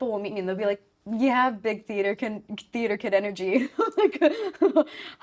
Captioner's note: laughing